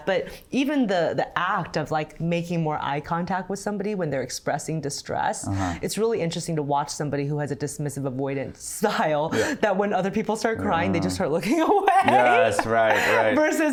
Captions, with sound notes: but even the act of like making more eye contact with somebody when they're expressing distress. It's really interesting to watch somebody who has a dismissive avoidance style, that when other people start crying, they just start looking away. (laughs) - Yeah, that's right, right.